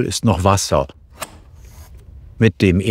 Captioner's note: click